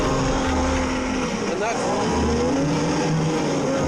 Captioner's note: boat motor revving